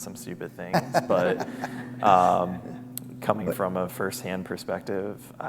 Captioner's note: laughter